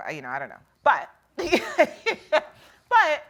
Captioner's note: laughs